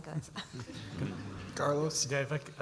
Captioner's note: audience chuckles